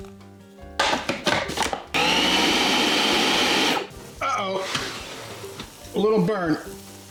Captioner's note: lid bangs; mixer whirring